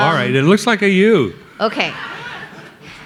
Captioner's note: audience laughing